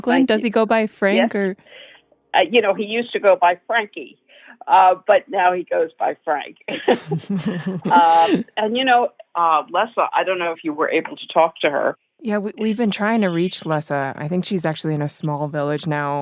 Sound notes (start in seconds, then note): 6.7 both laugh